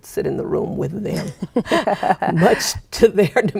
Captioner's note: laughing